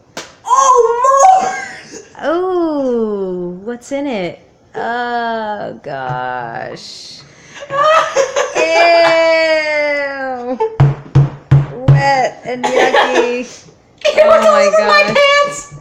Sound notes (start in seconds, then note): 10.8 pounding